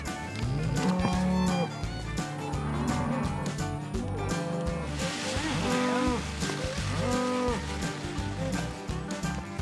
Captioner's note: mooing